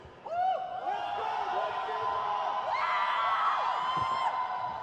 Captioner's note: crowd cheers